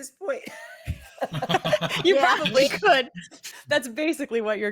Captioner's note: all laughing